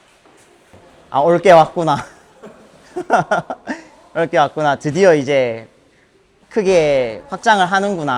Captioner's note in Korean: 웃음